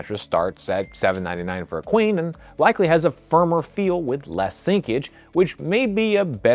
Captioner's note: bell dinging